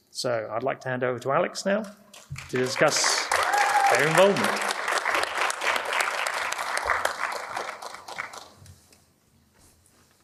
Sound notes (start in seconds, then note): 4.6 audience claps